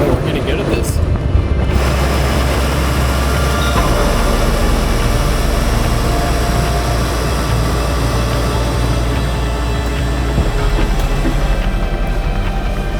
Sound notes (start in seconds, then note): 2.5 tow truck winch whirring; 6.0 ominous instrumental music continues